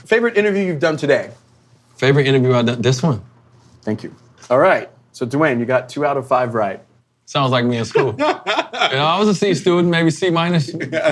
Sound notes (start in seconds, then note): 7.9 laughing